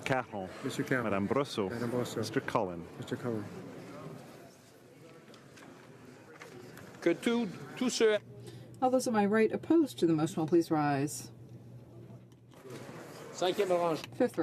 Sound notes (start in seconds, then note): 2.2 speaking in French